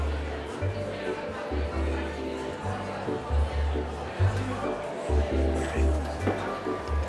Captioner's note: chatter from the crowd